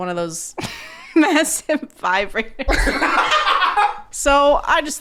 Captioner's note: laughing